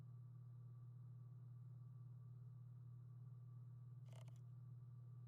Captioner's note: machine rumbling faintly